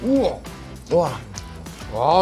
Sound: swallowing a mouthful of pizza

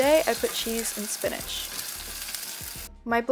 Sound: sizzling

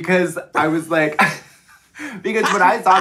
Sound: both laughing

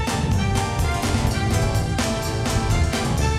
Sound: רוח נושבת

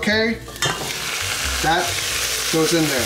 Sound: sizzling

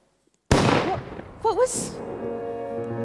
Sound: gunshot

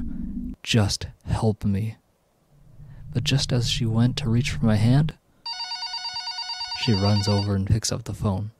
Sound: phone rings

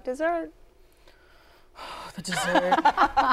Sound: sighing; laughter

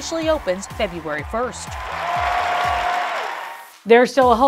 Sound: cheering continues

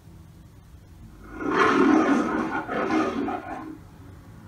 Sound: Leo the Lion roars on TV

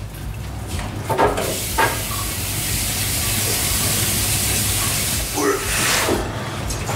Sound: faucet running

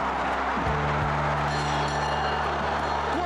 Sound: bell rings

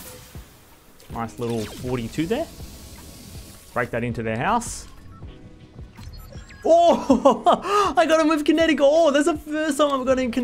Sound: laughs

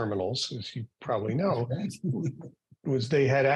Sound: laughing

